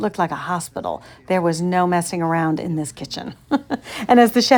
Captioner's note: laughing